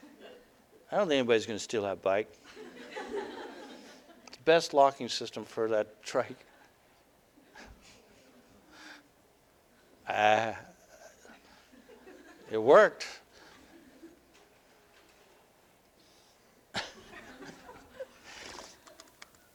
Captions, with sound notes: I don't think anybody's going to steal that bike. [Audience: Laughter] The best locking system for that trike. It worked! [Audience: Laughter]